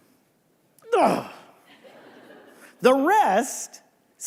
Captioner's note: grunts